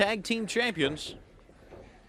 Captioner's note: crowd chatter